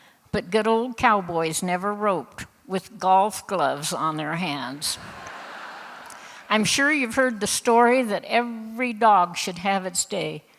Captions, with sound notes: but good old cowboys never roped with "golf gloves" on their hands. (Laughter) I'm sure you've heard the story that every dog should have its day;